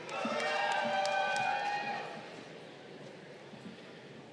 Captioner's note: crowd cheering